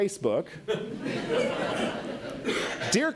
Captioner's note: audience laughs